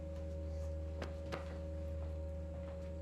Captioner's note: footsteps retreating; hand patting; tense music